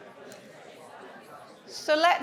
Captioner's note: audience indistinctly chattering